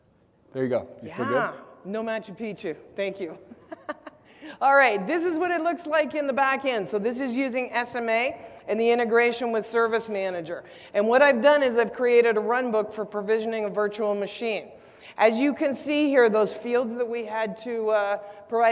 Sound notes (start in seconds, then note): 3.5 laugh